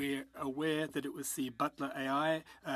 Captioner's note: speaking French